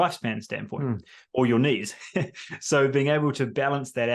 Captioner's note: laughs